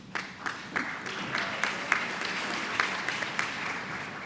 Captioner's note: applause